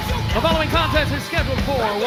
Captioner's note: bell ringing